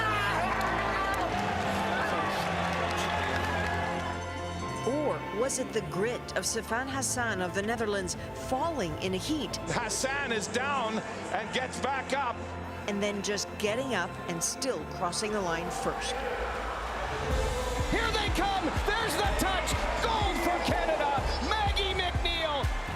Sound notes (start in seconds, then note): 5.2 cheers and Applause